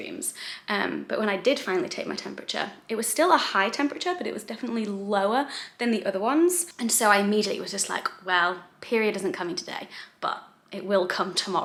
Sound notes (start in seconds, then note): none